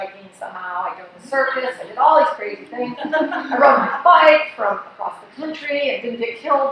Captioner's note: laughs